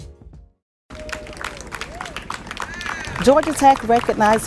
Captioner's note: crow applauds and cheers